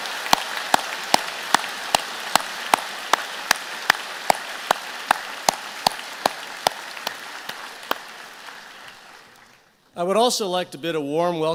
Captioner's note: applause